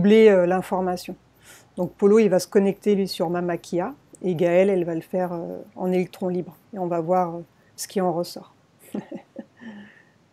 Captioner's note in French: rires